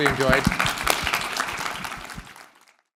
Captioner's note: clapping